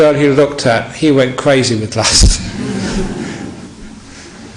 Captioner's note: laughter